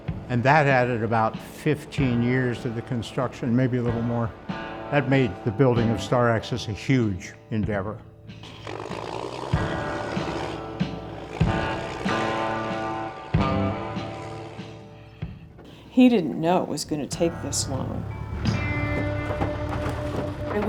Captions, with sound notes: And that added about 15 years to the construction, maybe a little more. That made the building of Star Axis a huge endeavor. [MOTOR RUNNING] He didn't know it was going to take this long.